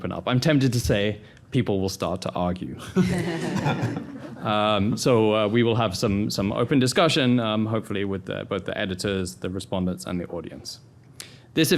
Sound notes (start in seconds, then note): 3.0 panel laughing